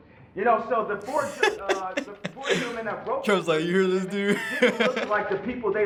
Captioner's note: laughs